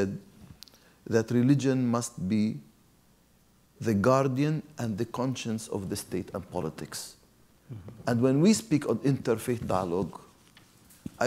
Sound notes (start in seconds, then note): none